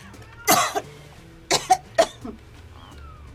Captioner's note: coughing